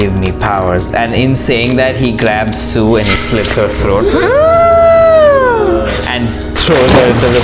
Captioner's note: gasps